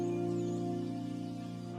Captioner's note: birds chirping